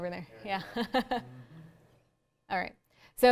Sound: laughs

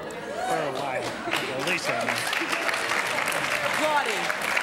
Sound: applause

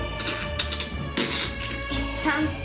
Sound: farting

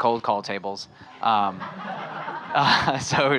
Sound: audience laughing

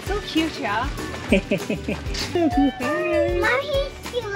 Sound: chuckles

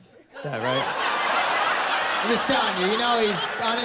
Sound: laughter

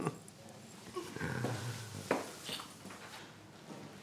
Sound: chuckling

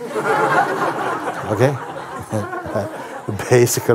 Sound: laughter

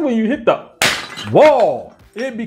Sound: clap and pot breaking

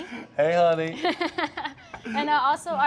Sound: both laugh

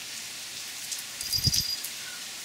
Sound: little bell

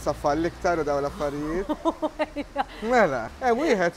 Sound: chuckles

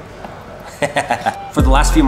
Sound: laughing

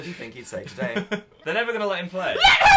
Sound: laughs

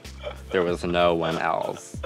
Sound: Violet laughing

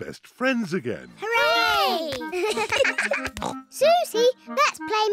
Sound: both giggle

